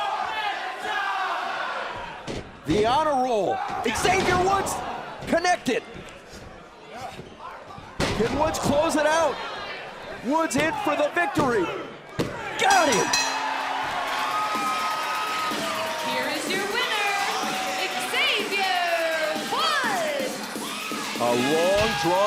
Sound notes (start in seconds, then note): 14.6 bell ringing; 15.5 crowd cheering